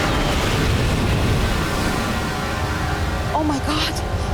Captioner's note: plane crashing